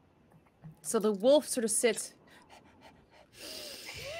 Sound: panting; sniffs

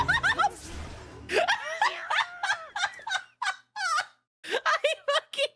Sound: laughter

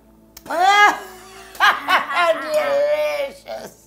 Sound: evil laugh

